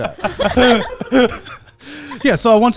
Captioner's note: everyone laughing